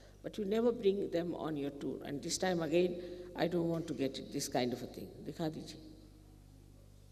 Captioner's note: Hindi